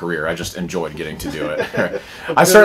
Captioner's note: laughter